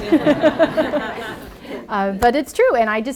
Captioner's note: laughter